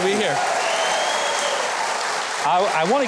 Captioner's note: audience applauds